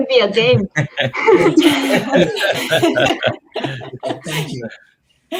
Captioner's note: everybody laughing